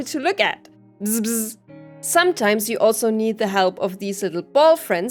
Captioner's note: bzz bzz